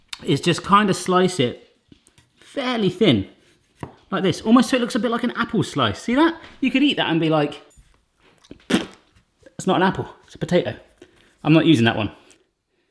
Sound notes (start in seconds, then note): 8.4 spitting